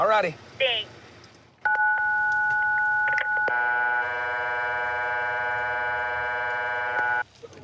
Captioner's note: intercom beeping